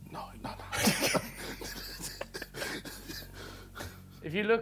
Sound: men laugh

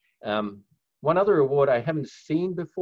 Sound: none

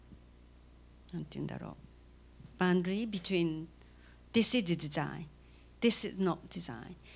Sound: non-english speech

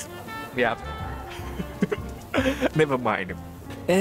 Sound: chuckles

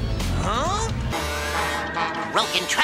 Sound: boats honking

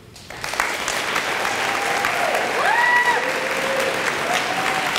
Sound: audience applauds

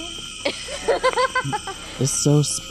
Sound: laughing

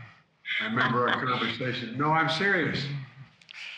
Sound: laughs

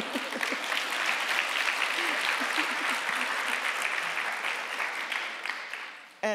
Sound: chuckling; audience applauding; audience laughing

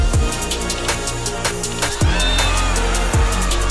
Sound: crowd cheering

